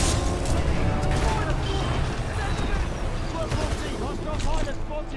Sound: radio

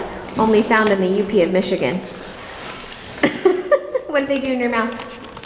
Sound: laughs

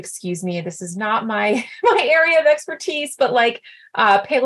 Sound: laughter

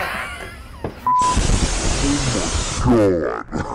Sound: laughing; gust of wind

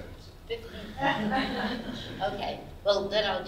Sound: audience laughs

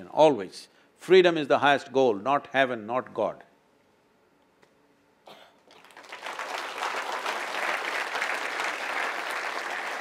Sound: applause

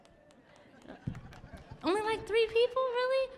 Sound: audience laughing

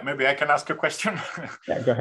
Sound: laughs

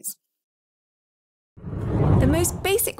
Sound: air whooshes

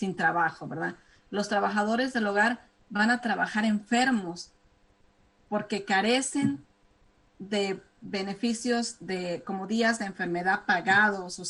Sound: speaking spanish

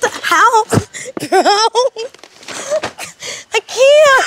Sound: laughing

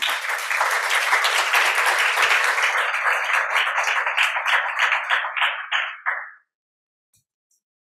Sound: applause

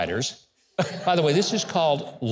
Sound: laughing

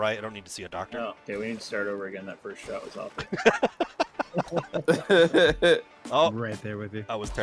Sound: laughter

